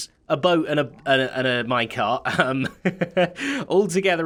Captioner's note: chuckles